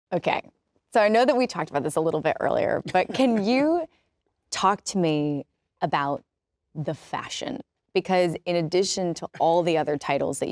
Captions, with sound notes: - Okay, so I know that we talked about this a little bit earlier, - (laughs) - But can you talk to me about the fashion? Because in addition to all the other titles